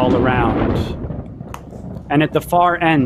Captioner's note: thunder booming